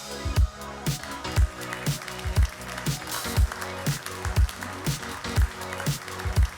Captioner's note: audience clapping